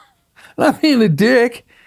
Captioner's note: laughs